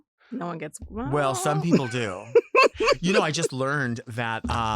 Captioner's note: laughs